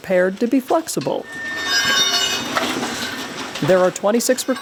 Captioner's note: tools scraping against concrete